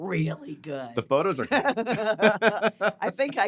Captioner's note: both laughing